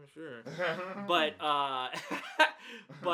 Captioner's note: laughs